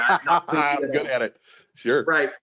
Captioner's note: laughs